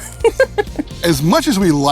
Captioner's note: laughs